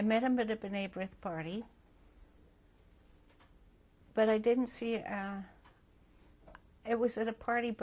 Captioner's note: pauses for 3 seconds